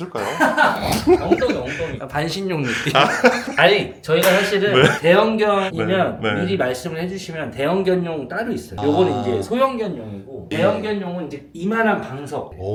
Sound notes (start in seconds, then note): 0.1 laughs; 2.6 chuckles